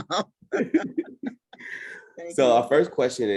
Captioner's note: laughing